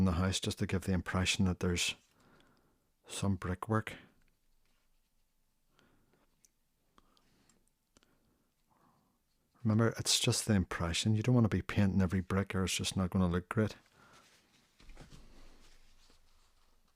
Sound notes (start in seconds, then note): 4.0 silence; 13.8 silence